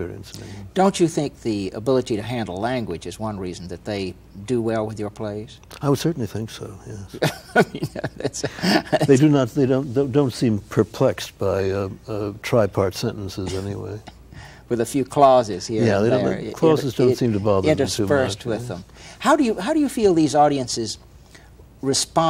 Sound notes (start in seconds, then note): 9.9 Ed laughs